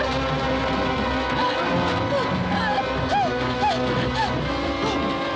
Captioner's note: Helen gasping